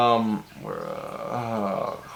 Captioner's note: distressed frog noises